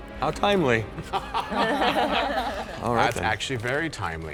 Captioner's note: laughs